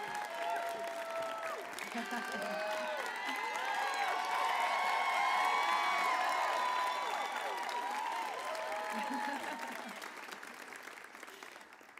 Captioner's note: applause